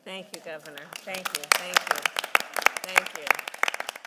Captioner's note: applause